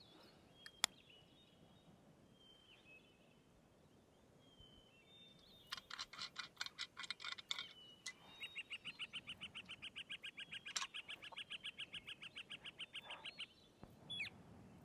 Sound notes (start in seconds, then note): 5.7 flask cap scraping; 8.5 birds chirping